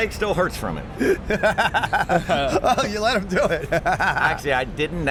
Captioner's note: chuckle